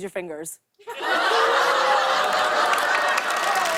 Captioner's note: laughter; applause